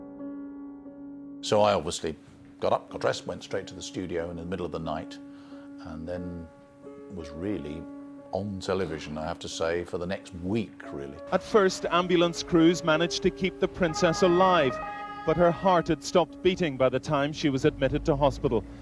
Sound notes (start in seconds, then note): 11.5 voiceover